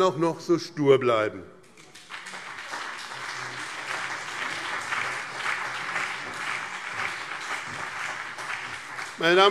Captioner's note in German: Beifall BÜNDNIS 90/DIE GRÜNEN und CDU